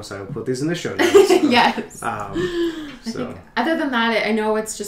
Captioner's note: laughter